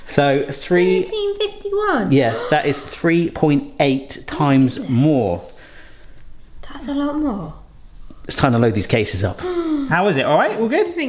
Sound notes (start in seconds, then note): 2.2 gasping; 7.5 gasping